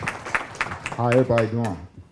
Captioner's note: crowd clapping